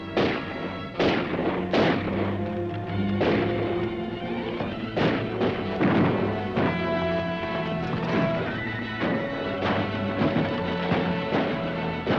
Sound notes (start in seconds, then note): 0.0 gun firing; 2.4 dramatic music; 4.7 guns firing; 5.9 dramatic music; 7.6 horse hooves clopping; 8.7 horse neighing; 10.1 guns firing